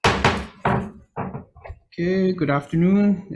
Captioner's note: gavel bangs